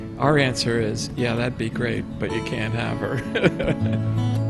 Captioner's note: laughs; relaxing, optimistic guitar music